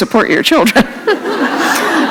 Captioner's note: laughter